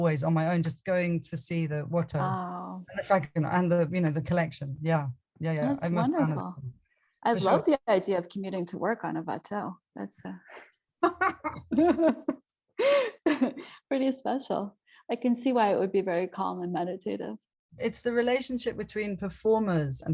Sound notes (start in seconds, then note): 11.0 both laugh